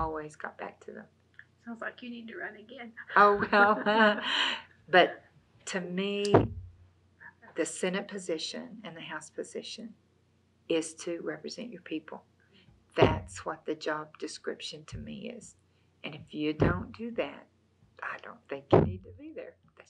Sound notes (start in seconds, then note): 3.2 laughs